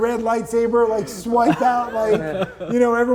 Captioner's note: laughing